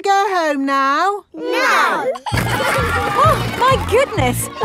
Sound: giggling

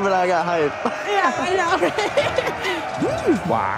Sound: laughs

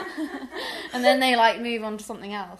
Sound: laughter

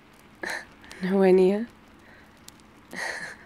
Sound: laughs

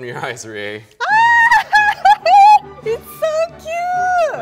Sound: laughs

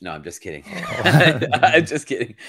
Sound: laughing

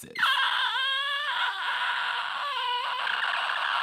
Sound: screeching

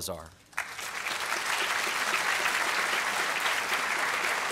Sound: applause

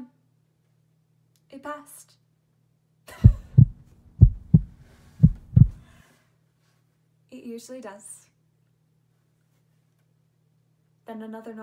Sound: laugh

